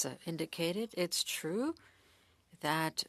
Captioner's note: speaking French